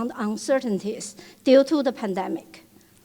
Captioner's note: none